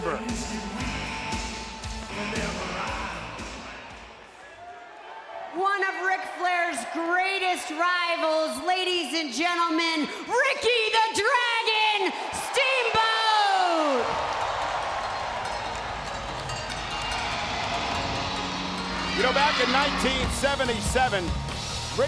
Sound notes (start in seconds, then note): 15.1 dragon roars; 15.3 rock music plays